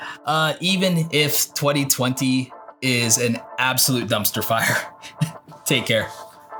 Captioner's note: laughs